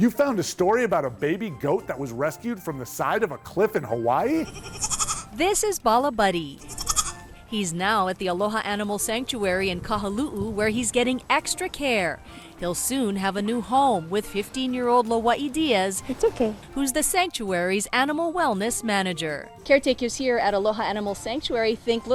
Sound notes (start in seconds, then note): 4.4 goat bleating